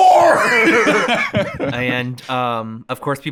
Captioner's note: both laughing